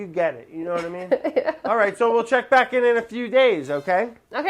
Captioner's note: lauhging